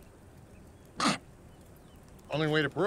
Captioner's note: Clive coughs